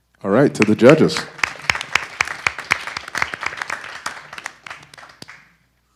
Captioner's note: audience applause